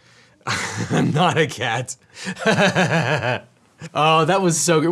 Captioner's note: laughs